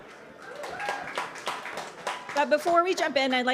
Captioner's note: audience applauding